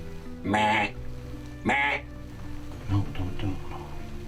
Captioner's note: imitating deer call